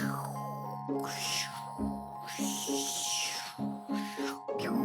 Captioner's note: light music; whooshes